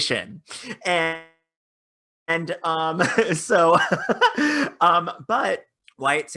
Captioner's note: laughing